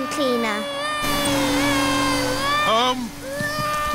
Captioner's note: crying